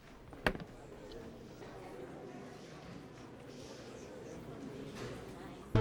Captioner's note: crowd murmuring